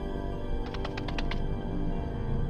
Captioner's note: scurrying feet